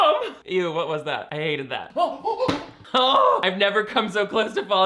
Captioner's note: gasping